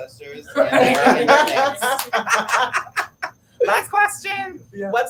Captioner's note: laugh